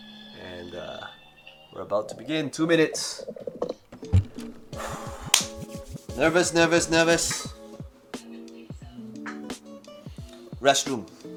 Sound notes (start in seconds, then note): 4.7 exhales heavily